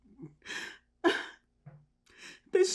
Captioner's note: crying